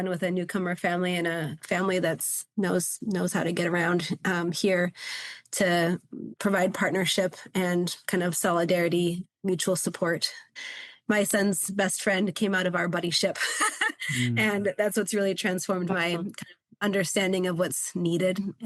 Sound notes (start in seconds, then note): 13.3 laughs